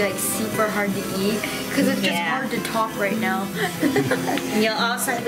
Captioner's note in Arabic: يضحك